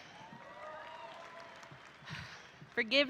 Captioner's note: audience cheering